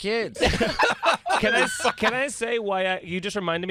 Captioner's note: laughter